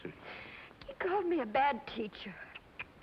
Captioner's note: tsk, tsk, tsk